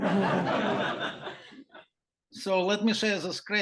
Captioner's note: laughter